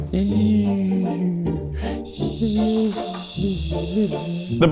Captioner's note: vocalizing